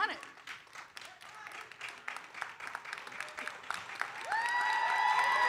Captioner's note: audience cheering and applauding